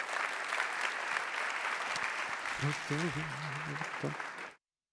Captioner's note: applause